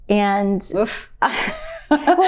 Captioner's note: laughs